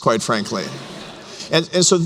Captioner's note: laughter